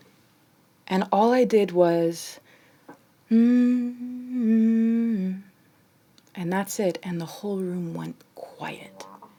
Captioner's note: humming